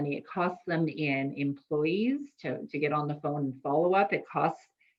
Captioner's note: none